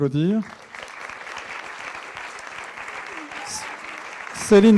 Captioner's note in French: applaudissements